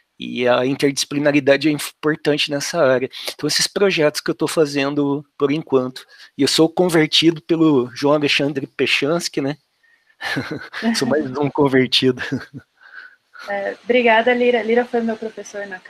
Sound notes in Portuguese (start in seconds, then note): 10.2 risos